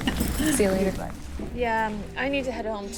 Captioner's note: laughing